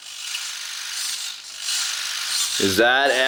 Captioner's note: wheels whirring